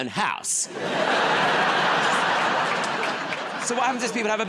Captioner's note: laughter